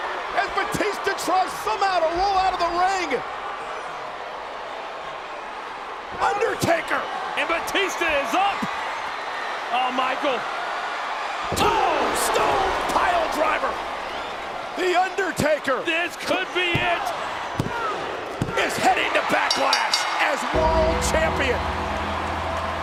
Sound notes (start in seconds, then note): 19.4 bell rings